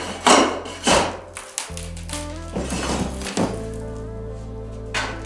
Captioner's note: spade hitting floor